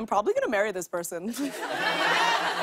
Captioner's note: laughter